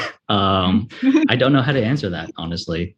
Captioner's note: laughs